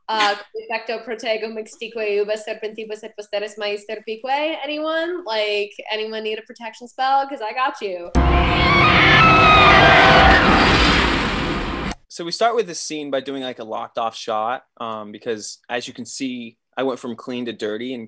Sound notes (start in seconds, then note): 0.1 speaking in foreign language; 8.1 dramatic music; 8.4 Blood Mary screams